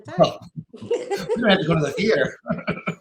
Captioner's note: laughter